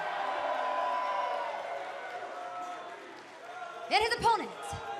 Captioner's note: cheers and applause